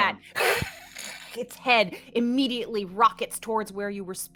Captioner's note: hisses